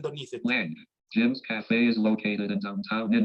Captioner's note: automated Voice